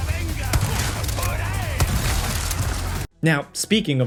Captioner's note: gun bangs